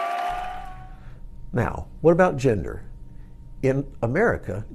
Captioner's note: applause